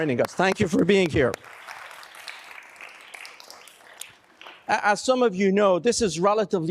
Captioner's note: applause